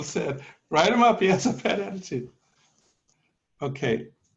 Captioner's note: laughter